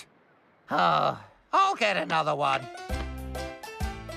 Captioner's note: sighs